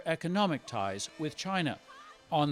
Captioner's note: speaking foreign language